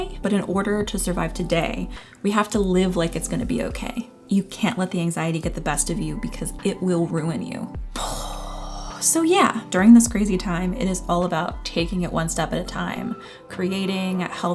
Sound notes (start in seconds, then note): 7.9 dramatic sigh